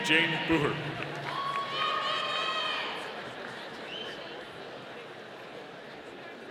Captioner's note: audience cheering